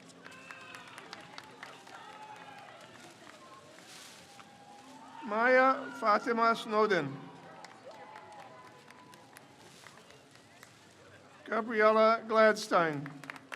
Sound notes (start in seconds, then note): 0.3 crowd cheers; 7.4 crowd cheers